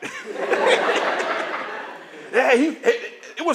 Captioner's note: laughter